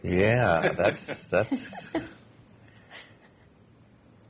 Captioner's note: laughter